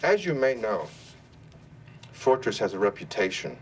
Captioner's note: none